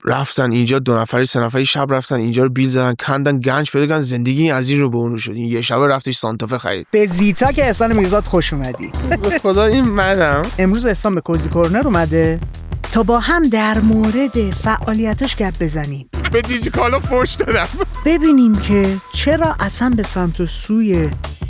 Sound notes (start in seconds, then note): 16.2 laughs